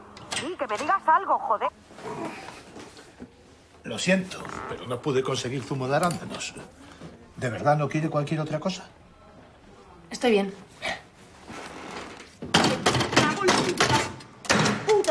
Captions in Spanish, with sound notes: ¡Di, que me digas algo, joder!". -Lo siento, pero no pude conseguir zumo de arándanos. ¿De verdad no quiere cualquier otra cosa? Estoy bien. -Bien. (Golpes) ¡Me cago en la puta! ¡Puta!